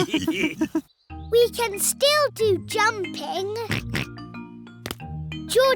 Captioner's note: all laughing; oinks